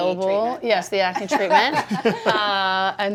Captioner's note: laughs